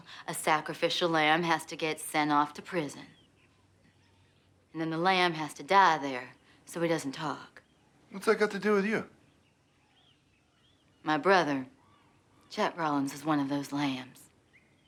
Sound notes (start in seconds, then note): none